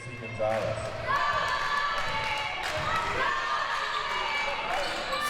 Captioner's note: audience chanting